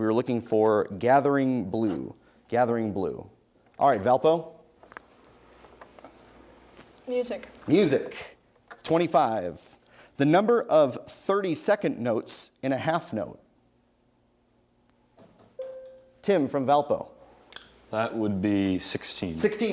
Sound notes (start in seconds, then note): 15.6 bell rings